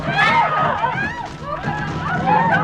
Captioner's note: banging on door; women screaming